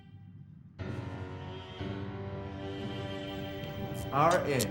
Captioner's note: dramatic music; electricity sizzling